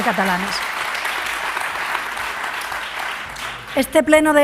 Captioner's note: applause